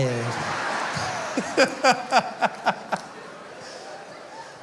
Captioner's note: lauging